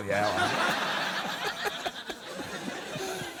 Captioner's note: laughter